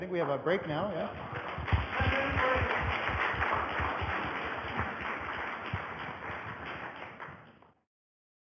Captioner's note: audience applause